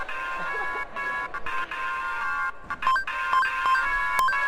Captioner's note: laughter